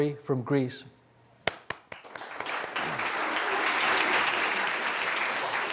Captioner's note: applause